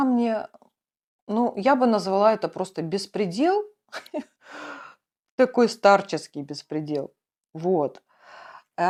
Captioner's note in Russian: тяжело вздыхает